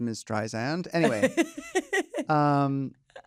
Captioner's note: laughs